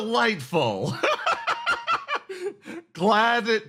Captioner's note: laughs